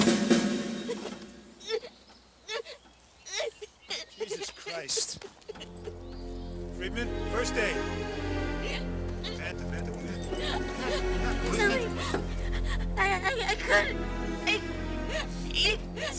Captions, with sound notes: (crying) - Jesus Christ. Friedman, first aid. Banta, Banta, what happened? What happened, what happened? - Something, I, I, couldn't, it was green.